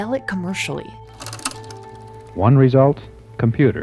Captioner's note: camera whirring